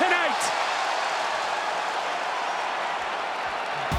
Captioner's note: audience cheers